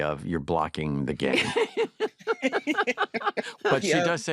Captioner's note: all laugh